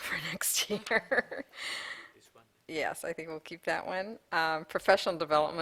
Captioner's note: laughter